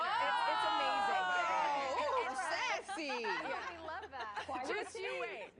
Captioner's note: laughter